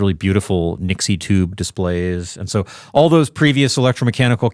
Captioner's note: none